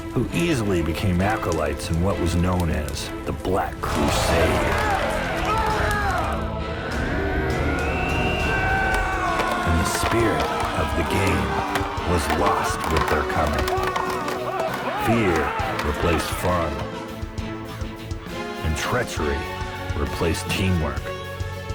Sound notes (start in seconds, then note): 5.0 yelling and Cheering; 8.4 warriors Yelling